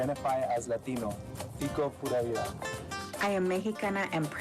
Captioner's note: speaks in foreign language